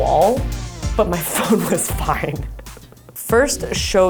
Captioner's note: chuckles